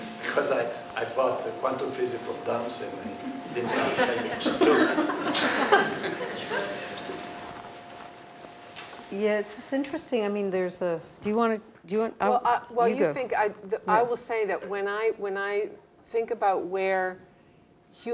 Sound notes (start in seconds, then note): 3.1 laugh